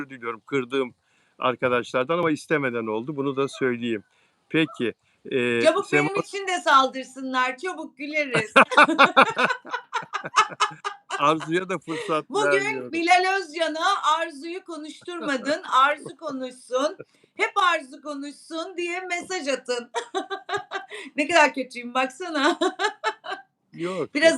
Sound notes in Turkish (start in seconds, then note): 8.3 kahkaha; 19.7 kahkaha